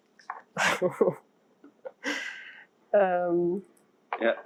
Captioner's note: laughing; laughing